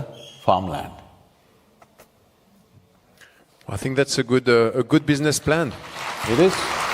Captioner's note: applause